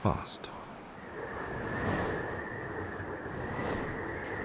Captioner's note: wind blowing